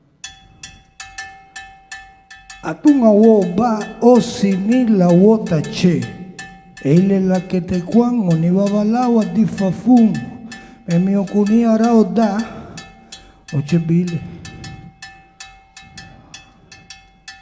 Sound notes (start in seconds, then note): 3.0 musician speaking in Spanish